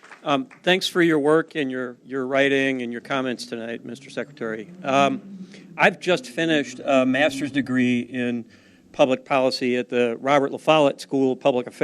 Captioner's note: applause